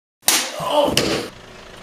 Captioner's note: slaps in the face